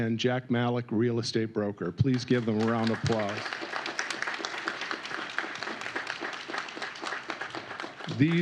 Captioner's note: applause